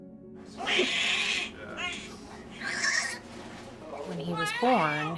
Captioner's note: baby crying